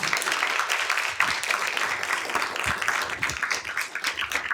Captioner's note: applause